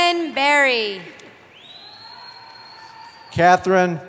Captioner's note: cheering